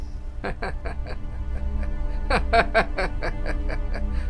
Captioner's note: laughing